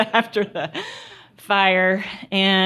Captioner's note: laughter